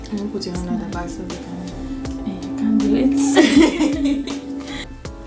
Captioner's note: both laugh